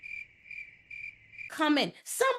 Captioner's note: crickets chirping